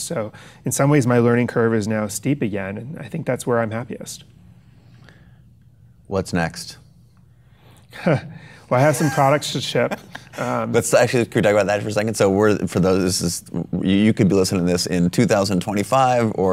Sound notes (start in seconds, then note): 8.7 laughs; 8.8 Chase laughs